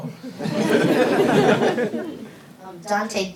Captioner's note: everybody laughing